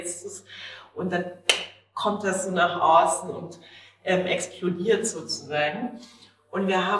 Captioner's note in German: klatscht